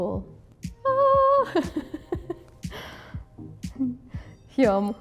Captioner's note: chuckles